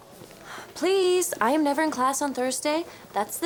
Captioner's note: sighs